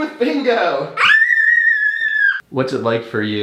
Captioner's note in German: schreit